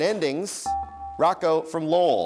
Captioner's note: dinging